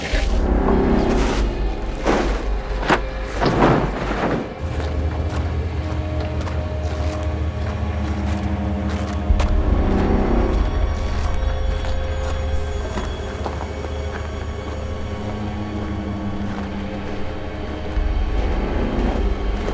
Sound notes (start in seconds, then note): 0.0 cooler sliding; 0.3 suspenseful music; 4.8 footsteps crushing snow; 4.8 tense suspenseful music; 14.6 footsteps crushing snow; 14.6 tense suspenseful music